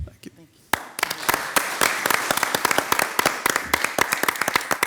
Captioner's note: everyone applauds